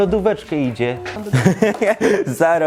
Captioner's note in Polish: śmiech